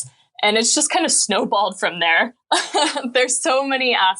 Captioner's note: laughing